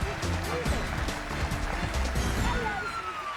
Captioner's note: cheers and applause